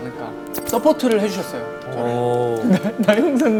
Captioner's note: hesitant